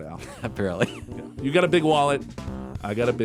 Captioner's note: laughs